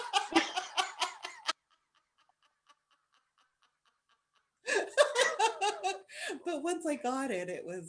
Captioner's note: laughter